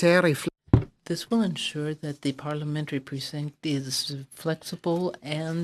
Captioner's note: speaking French